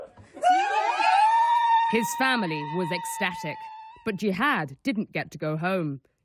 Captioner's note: cheering